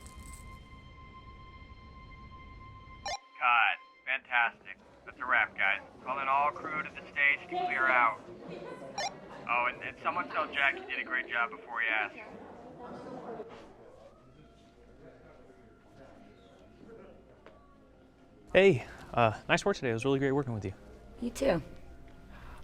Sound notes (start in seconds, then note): 0.0 gentle poignant music; 0.0 bracelet clinking; 3.0 radio bleeps; 9.0 radio bleeps; 14.6 crew softly chattering